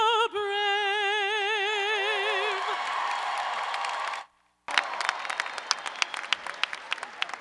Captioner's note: cheers and applause